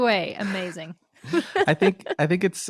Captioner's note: both laughing